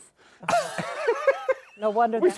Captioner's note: laughter